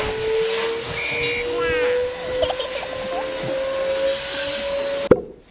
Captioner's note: laugh